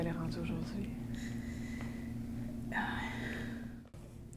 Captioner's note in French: respiration